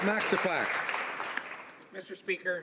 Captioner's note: some Applause